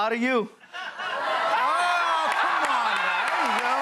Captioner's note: cheers and applause